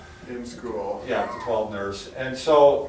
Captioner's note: chuckles